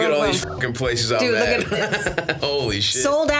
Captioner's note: beeps